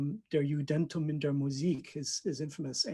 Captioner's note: speaking foreign language